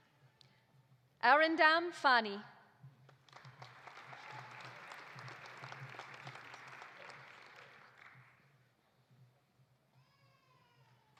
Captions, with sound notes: Arindam Phani. (audience applauding)